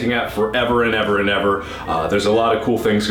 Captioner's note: inhale